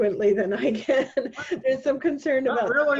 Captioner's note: laughing